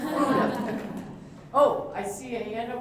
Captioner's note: laughter